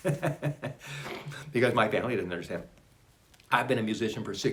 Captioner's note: laughs